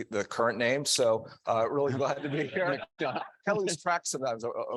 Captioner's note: audience laughing